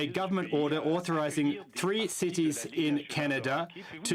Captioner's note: speaking French